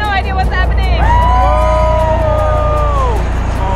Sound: hosts cheer

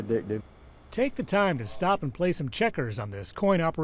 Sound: voiceover

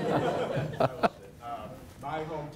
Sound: audience laughs

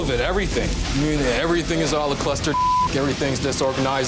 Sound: beeping

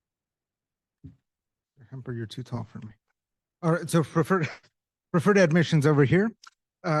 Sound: chuckle

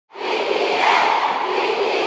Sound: fans chanting at a concert

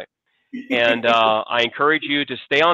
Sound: chuckles

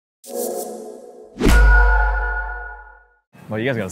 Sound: gentlest of whooshes and a satisfying snap

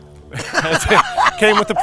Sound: laughs

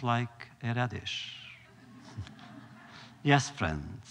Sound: laughter

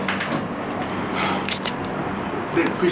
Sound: exhales heavily

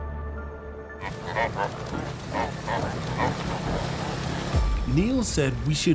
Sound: reindeer grunting

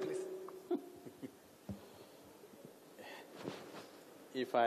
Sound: Sadhguru laughs

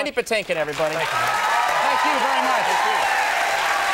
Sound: audience cheers

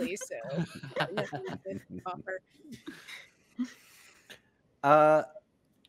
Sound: multiple chuckling

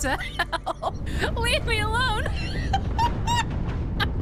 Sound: laughter

